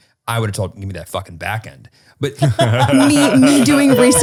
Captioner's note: laughing